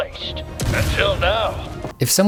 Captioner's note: explosion